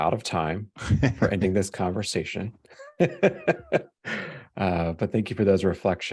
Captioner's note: laughs